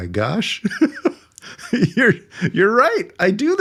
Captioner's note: laughing